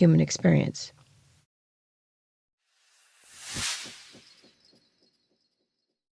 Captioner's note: sound effect